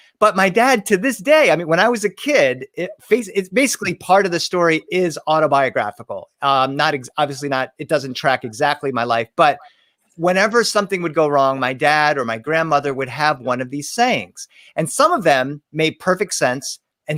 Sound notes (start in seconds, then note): none